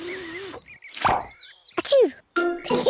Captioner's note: sneezes; both giggle